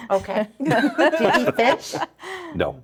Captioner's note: laughing